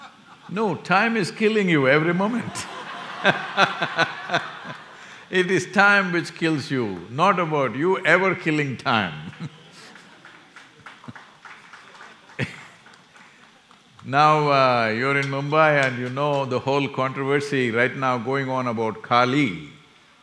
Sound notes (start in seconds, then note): 0.0 few laugh; 2.4 laughter; 9.2 applause